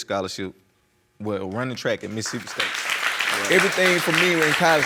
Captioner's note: applause